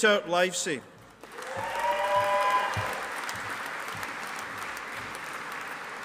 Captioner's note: audience applauding